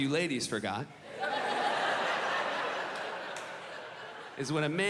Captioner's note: audience laughing